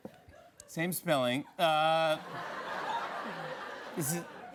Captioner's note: laughter